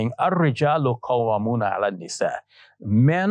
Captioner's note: speaking Arabic